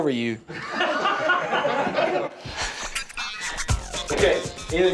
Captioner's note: instructors laughing